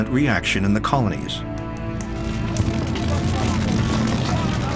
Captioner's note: fire crackles